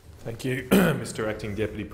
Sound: clears throat

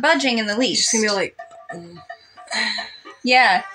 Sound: sigh

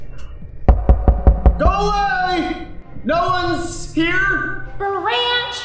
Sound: knocking at door

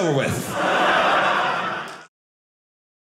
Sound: audience laughing

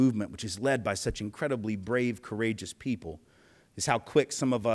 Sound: none

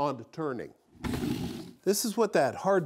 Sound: frame buzzes

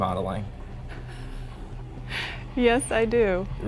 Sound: laughter

